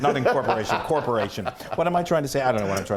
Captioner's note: laugh